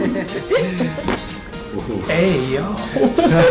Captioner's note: everyone laughing; cracking noise; everyone laughing